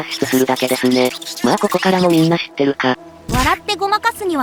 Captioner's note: laughs